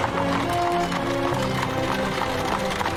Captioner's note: horse clopping